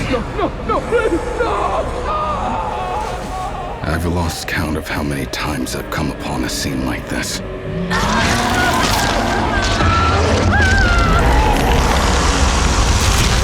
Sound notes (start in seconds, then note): 2.2 grito; 7.4 gritos de humanos; 8.3 rugido gutural demoníaco